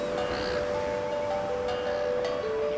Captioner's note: seagulls caw